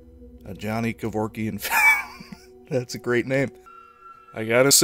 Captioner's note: wheeze